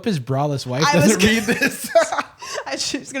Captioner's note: laughs